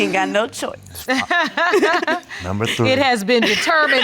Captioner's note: laughing